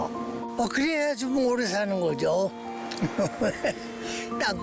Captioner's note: laughter